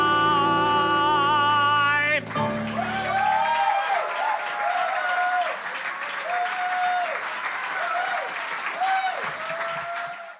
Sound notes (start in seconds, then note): 2.2 applause